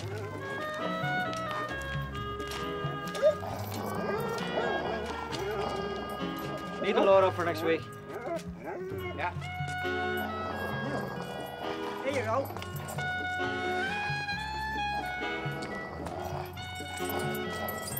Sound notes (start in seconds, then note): 3.0 dog growling